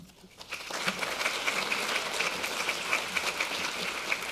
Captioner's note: audience applauding